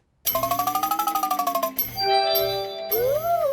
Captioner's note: beeps and chimes